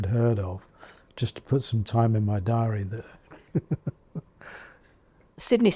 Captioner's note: chuckles